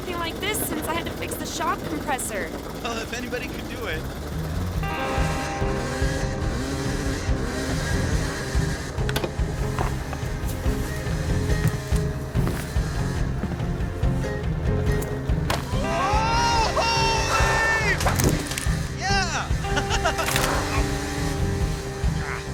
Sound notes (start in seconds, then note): 4.4 bikes whirring; 4.4 dramatic music; 19.9 gentle music